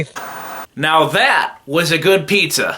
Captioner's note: TV Static